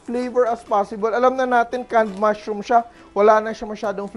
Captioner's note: sizzle